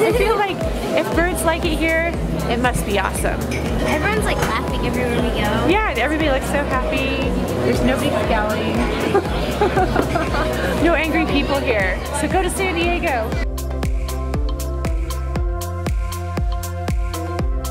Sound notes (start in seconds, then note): 0.0 laughs; 8.9 laughs; 14.5 upbeat music